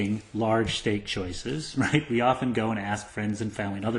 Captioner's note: laugh